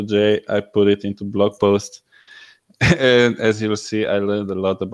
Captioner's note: laughing